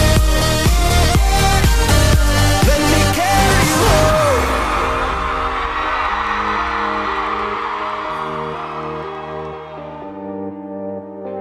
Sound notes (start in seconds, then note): 3.2 cheering